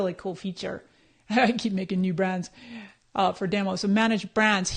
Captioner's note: laughs